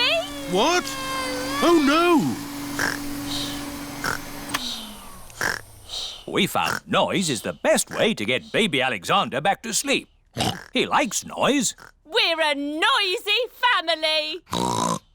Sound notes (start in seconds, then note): 2.7 snores; 4.2 whirring stops; 10.3 oinks